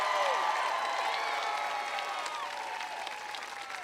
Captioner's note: applause